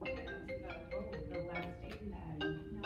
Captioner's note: cell phone ringing